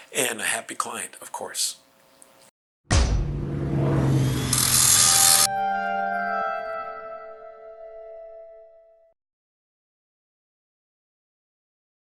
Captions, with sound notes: and a happy client, of course. (plane engine buzzing) (ethereal tones)